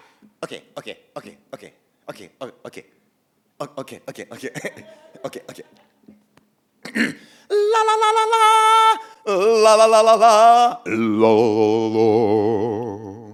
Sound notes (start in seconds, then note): 6.8 clears throat; 7.1 using high voice; 8.6 using medium voice; 10.3 using low voice